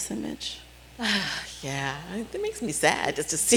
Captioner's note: sighing